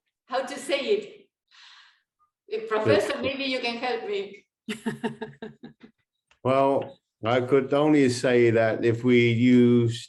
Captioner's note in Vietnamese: Cười